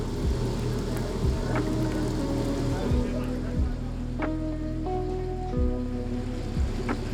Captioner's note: water flowing; quiet music